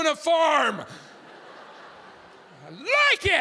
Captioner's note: audience laughing